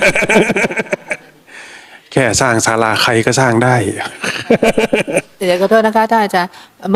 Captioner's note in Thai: เสียงหัวเราะ